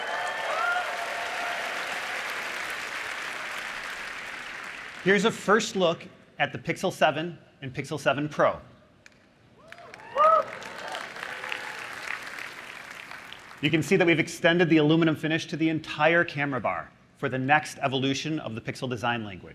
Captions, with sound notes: we're also working on our next generation Pixel 7 phones. Let me give you an early preview so you can see what's coming this fall. [APPLAUSE] Here's a first look at the Pixel 7 and Pixel 7 Pro.